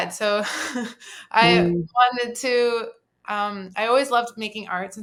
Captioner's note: laughs softly